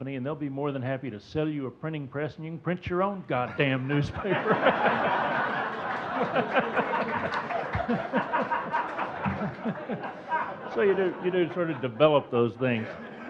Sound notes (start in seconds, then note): 4.5 laughing; 5.0 audience laughing